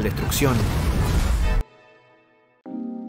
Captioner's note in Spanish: sonido de dragón y gente huyendo